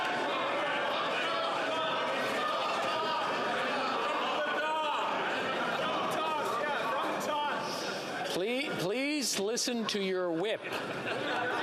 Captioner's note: yelling